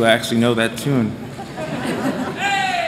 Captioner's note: laughter